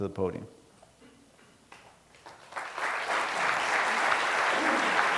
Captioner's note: applause